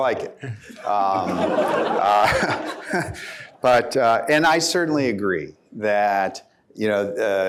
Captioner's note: laughter